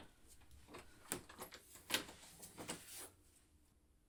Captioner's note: door clicks